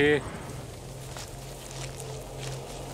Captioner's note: grass crackling; locusts fluttering